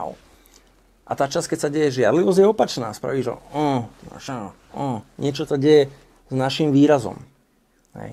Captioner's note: grunts